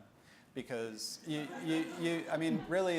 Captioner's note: audience laughing